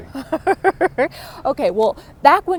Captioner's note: laughter